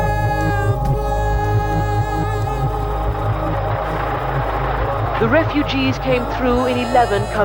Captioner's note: soundbite of archived recording